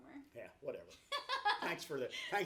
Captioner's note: laughs